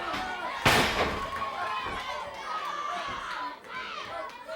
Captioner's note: body thudding